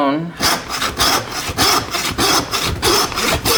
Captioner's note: saw scraping